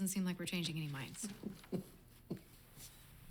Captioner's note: chuckles